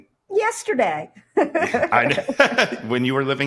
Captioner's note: laughs